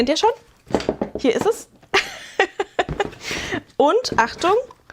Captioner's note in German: gelächter